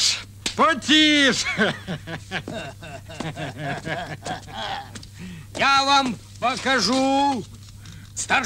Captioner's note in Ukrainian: сміх